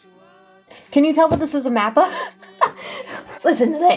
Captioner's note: laughs